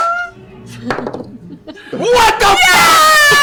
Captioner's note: laughter; shouting